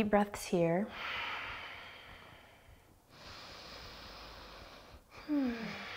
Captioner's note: deep breathing